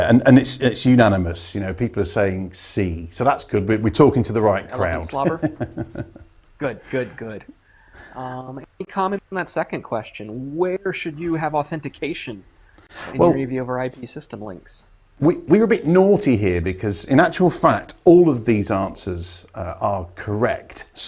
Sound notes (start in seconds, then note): 4.8 laughs